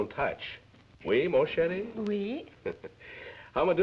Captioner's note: French spoken audio